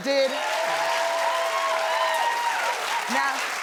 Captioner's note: audience cheering